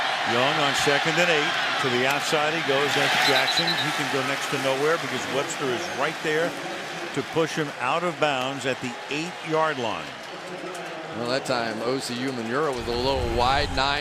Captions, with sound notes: Young stepping up, throws. And that is caught by Celek. [whistle blowing] First down to the 20-yard line. Big first down. How good was that by Vince Young? Under pressure on the outside by Jason Pierre-Paul,